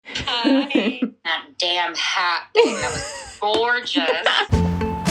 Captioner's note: laughter